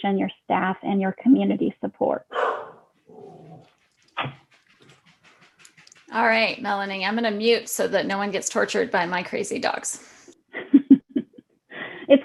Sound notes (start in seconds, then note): 2.3 dog barking; 10.5 laughing